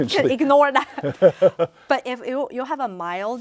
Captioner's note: laughs